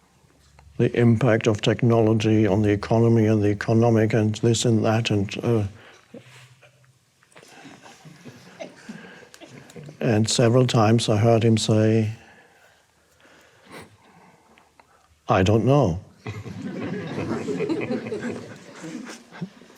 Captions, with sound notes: The impact of technology on the economy and the economic and this and that and... (groans) (audience laughs) And several times I heard him say, "I don't know." (audience laughs)